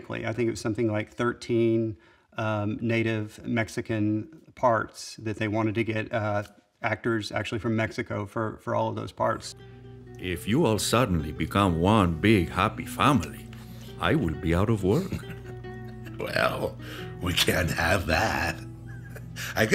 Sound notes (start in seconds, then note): 14.9 laughs